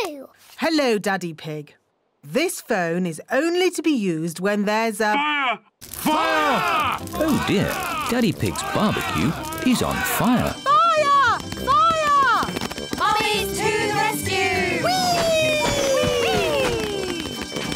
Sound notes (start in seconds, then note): 10.1 alarm blares